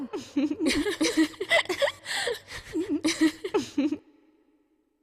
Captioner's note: everyone's laughing